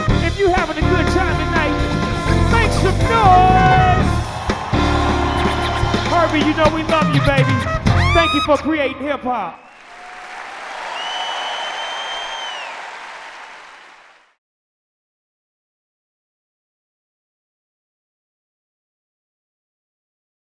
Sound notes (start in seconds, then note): 2.7 audience roars; 9.6 audience cheers; 9.6 audience applauds